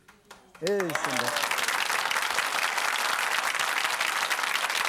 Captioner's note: audience applauding